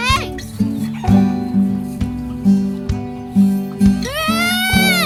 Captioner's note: chickens clucking